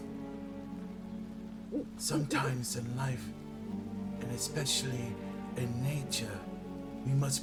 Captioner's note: owl hoot hoot